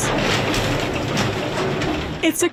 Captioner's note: gate clattering open